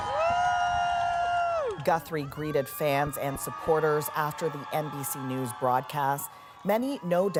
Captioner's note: cheers and Applause